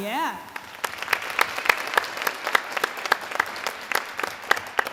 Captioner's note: audience applauding